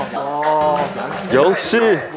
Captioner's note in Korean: 박수가 절로